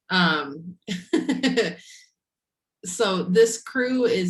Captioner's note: laughing